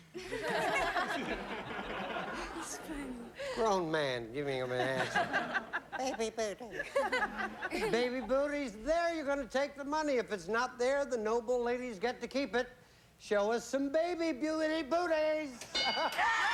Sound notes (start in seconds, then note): 0.1 laughter; 5.6 falsetto